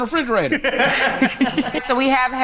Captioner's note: group laughs